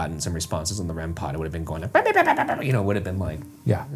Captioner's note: imitates Rempod beeping